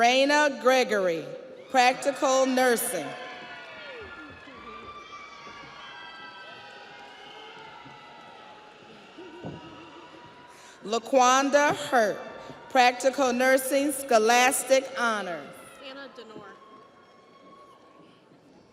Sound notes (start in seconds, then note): 7.9 audience applauds; 7.9 audience cheers; 18.5 audience cheers